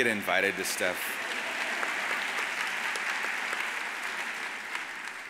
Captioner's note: audience applauds